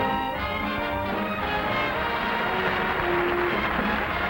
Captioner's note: people clapping